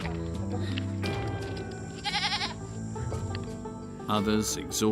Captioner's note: somber music; goats bleating